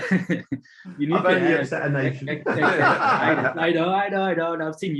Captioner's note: laughing